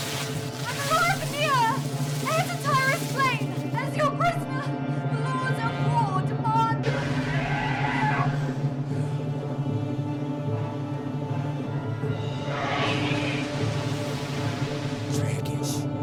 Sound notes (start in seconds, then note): 6.8 roar; 12.3 roar; 14.5 speaking foreign language